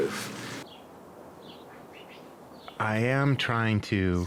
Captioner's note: birds chirping